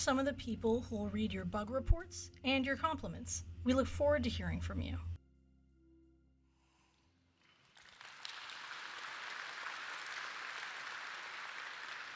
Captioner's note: applause